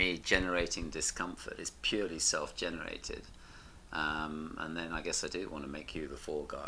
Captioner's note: none